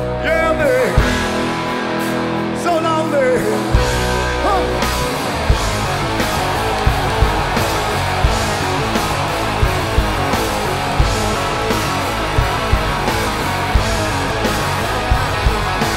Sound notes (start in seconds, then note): 6.9 crowd cheering